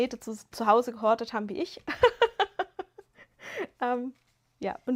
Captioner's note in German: gelächter